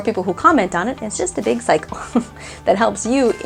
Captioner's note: laughing